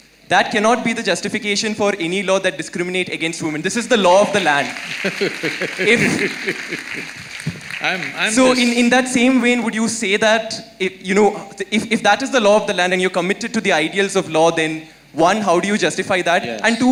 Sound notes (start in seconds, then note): 4.1 laughter/Applause; 4.9 Sadhguru Laughs